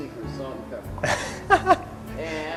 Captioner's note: laughs